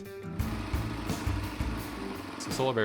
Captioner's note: machine whirring